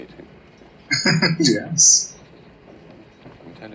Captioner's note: chuckling